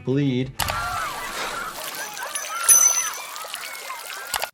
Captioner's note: water sputters